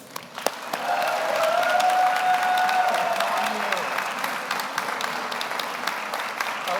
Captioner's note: audience applauds; audience cheers